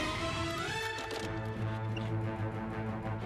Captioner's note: tires screech